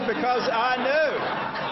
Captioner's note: laughter; applause